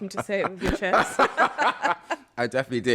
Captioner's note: laughter